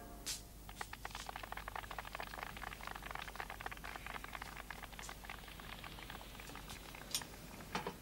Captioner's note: applause on the radio